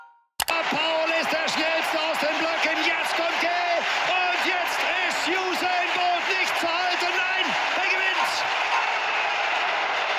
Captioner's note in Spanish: narración en alemán